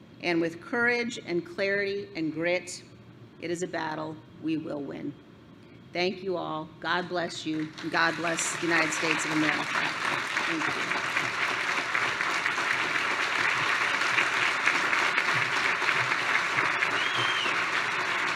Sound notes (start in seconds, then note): 11.0 applause